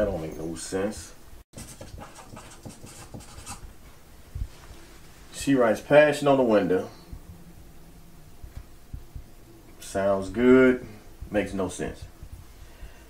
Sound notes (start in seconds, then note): none